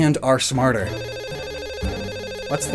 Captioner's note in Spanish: Teléfono sonando